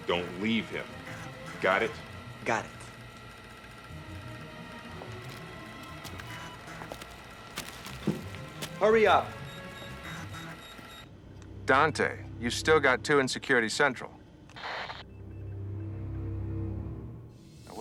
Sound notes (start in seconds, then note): 3.8 dramatic music; 10.5 beeping; 15.1 dramatic music